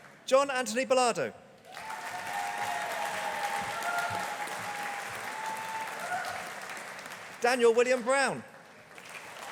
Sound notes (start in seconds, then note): 1.6 audience applauding